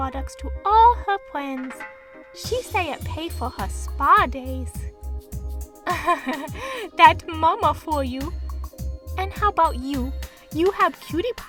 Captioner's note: laugh